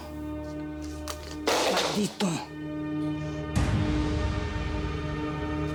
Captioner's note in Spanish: ruido al tirar el cuadro